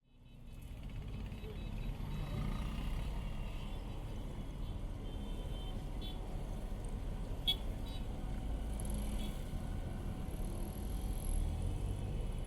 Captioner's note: sounds of traffic